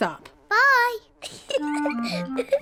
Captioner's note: giggles